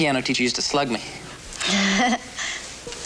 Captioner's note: chuckles